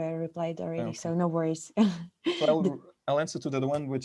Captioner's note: laughs